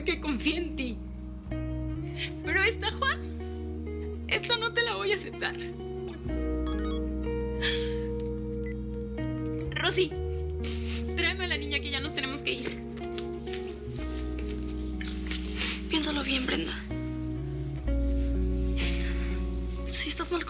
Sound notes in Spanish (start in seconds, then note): 6.6 Suena el celular